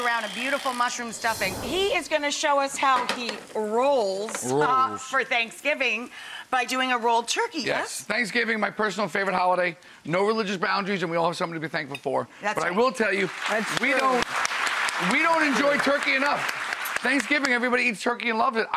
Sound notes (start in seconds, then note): 13.0 applause